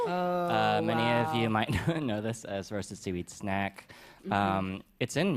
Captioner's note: chuckles